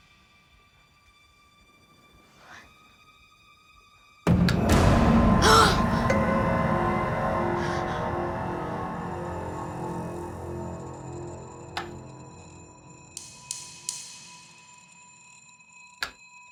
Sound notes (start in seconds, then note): 0.1 eerie music; 5.4 boys gasp; 7.7 eerie music